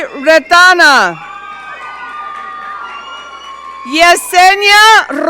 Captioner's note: audience cheering